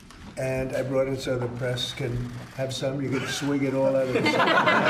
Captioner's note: laughter